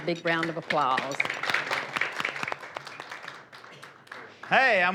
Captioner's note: applause